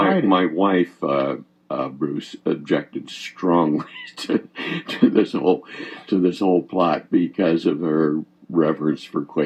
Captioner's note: chuckles